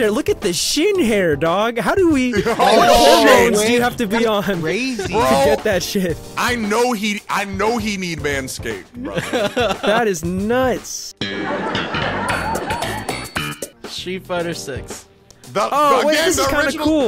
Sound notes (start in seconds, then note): 9.0 laughing; 11.2 upbeat music; 11.3 audience laughing